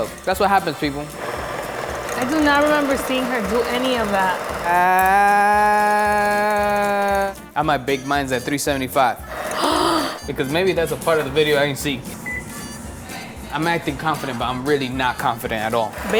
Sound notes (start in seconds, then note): 9.3 gasps; 12.0 oven beeps